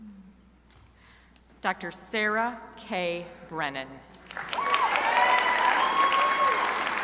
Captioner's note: crowd applauding